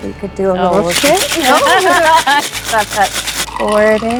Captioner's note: laughing